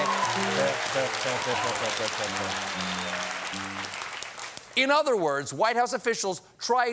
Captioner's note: cheers and applause